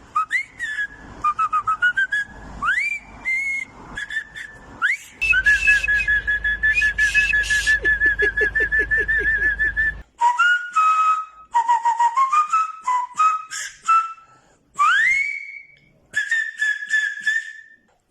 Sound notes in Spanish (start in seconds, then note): 0.2 Silbidos agudos; 4.7 Más silbidos